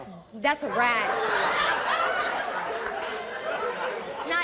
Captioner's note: laughs